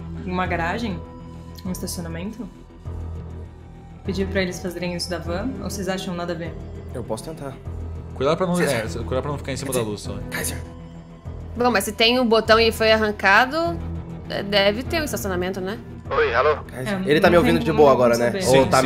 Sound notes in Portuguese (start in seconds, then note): 7.9 sussurro; 11.1 sussurro